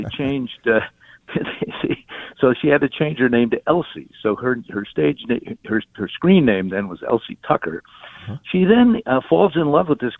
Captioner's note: chuckles